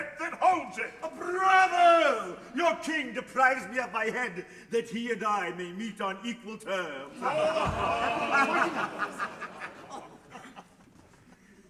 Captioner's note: laughter